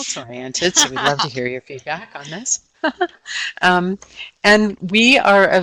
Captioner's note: laughing